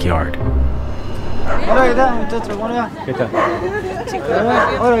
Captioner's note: speaking Spanish